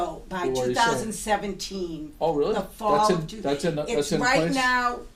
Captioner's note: voiceover